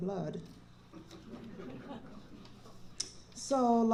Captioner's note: laughter